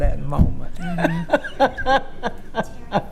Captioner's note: laughing